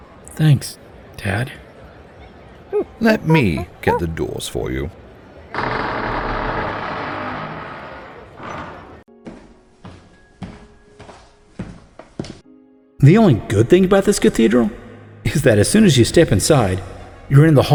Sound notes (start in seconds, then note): 2.8 ape noises; 5.6 large door opening